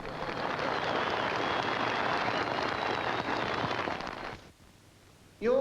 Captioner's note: audience cheers